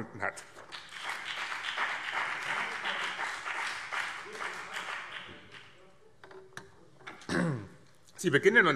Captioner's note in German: Beifall BÜNDNIS 90/DIE GRÜNEN und CDU